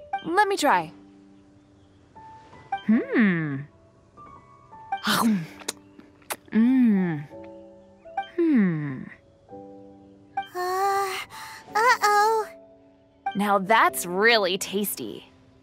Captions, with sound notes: Let me try... Hmm... *nom nom* Wow... Ahh... Uh oh... Now that's really tasty!